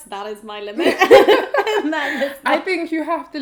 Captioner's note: laughter